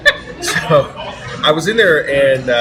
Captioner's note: laughs